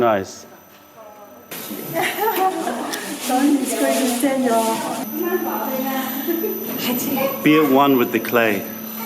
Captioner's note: laughter